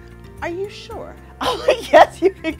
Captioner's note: laughs